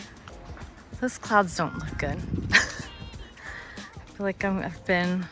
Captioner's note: chuckles